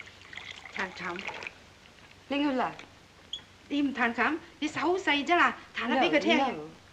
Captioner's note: speaking in Chinese